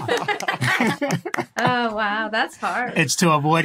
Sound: applauds; group laughing

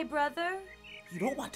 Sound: birds chirping

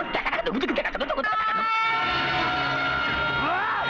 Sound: police siren blaring

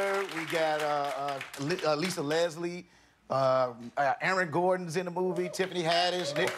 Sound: applause

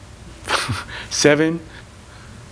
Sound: chuckles

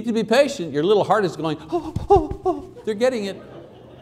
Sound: whimpering

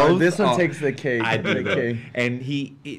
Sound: laughs

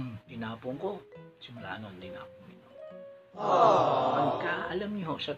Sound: aawww

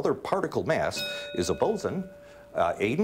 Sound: bell ringing

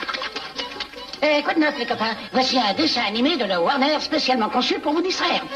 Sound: bugs bunny speaking french

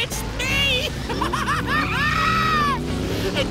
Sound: laughing

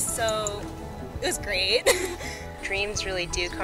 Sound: laughs

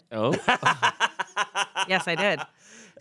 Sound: laughs

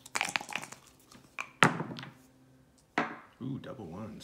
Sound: dice shaking

